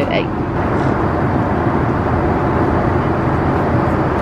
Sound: aeroplane humming

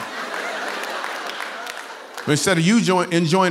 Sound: laughter

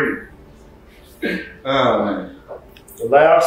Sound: laughs

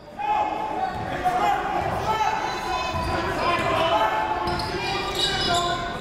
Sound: crowd talking; coaches yelling

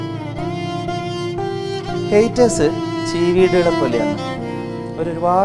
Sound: insects

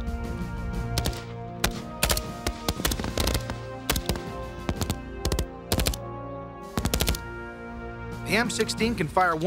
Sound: gun shots

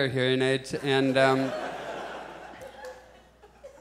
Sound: audience chuckles

